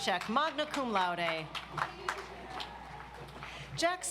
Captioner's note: audience applauds